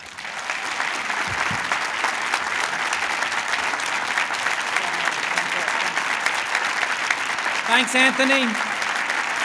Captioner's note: applause